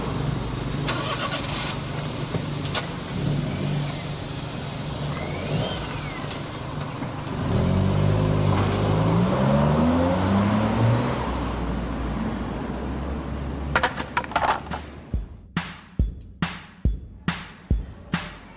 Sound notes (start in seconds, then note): 0.1 engine revs; 7.6 engine roars; 13.7 wood clattering